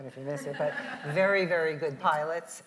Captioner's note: audience laughs